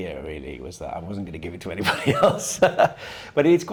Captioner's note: laughing